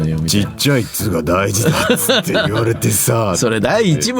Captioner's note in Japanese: 笑い